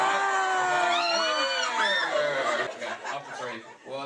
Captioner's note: crowd starts screaming